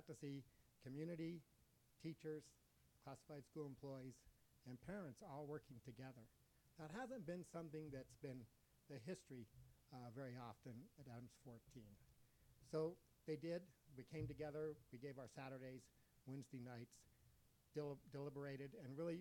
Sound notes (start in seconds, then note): none